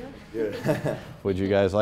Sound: laughs

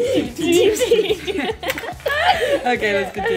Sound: laughing

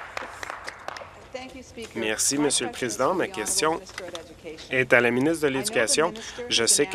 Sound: applause

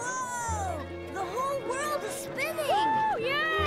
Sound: screaming

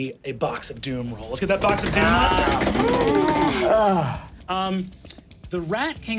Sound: thumping table

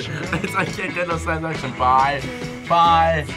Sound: laughs

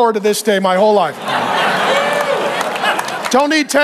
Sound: congregation laughing

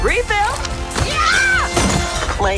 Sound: screaming

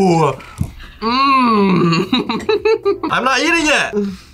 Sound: laughs

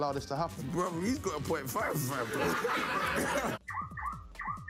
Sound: all laughing

